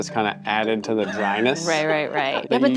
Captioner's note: laughing